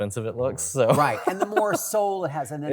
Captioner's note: laughs